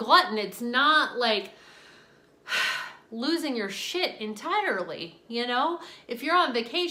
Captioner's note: sighing